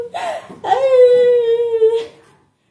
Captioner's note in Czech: pláče